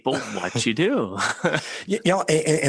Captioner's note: laughing